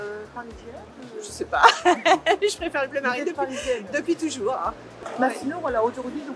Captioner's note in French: rires